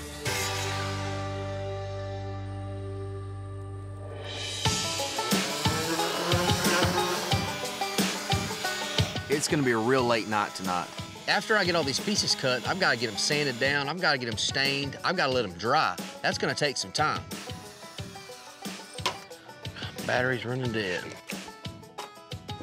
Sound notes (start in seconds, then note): 5.9 sanding